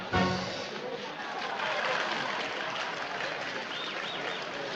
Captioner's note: applauses